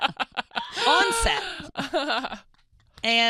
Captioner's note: laughs